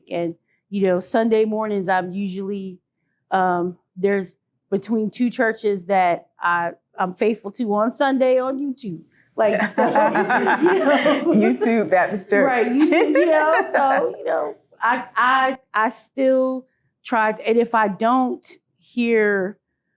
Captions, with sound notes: and, you know, Sunday mornings, I'm usually there's between two churches that I, I'm faithful to on Sunday on YouTube. Like So, (group laughing) - YouTube, that is church. - Right. YouTube, you know, so you know, I, I still try to, and if I don't hear, you know,